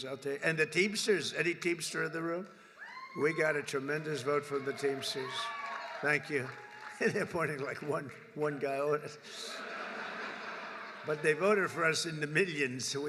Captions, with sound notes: I’ll tell you -- and the Teamsters. Any Teamster in the room? (Applause.) We got a tremendous vote from the Teamsters. Thank you. (Laughs.) Pointing like -- one -- one guy, all there is. (Laughter.) But they voted for us in the millions.